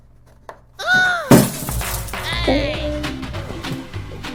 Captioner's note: screaming; crash